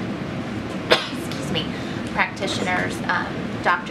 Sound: sneezes

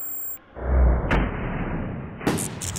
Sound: gunshot; electric buzzing

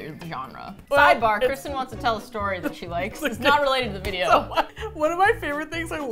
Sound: laughs

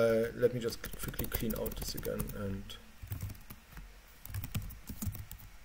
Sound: keyboard clattering

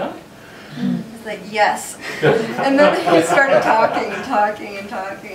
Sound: laughter

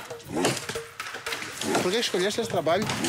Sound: Portuguese spoken audio

